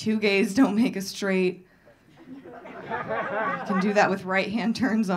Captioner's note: audience laughing